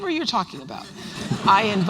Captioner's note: laughter